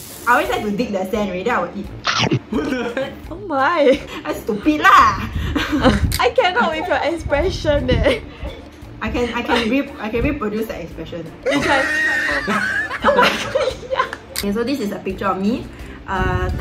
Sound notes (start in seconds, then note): 11.5 laughs